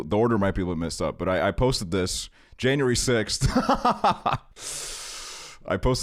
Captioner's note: laughs